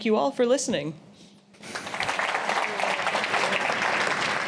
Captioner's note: applause